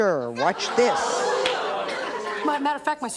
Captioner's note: audience exclaims